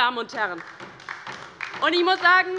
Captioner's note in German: Beifall bei der LINKEN